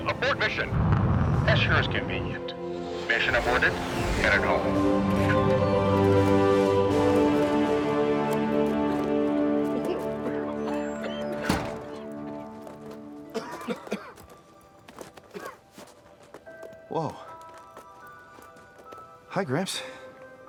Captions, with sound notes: Abort mission. - That sure is convenient. Mission aborted. We're heading home. (triumphant music) (everyone coughing) - Whoa. Hi, gramps.